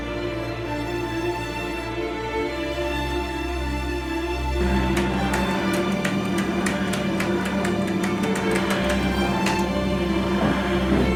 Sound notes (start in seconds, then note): 5.0 pressing buttons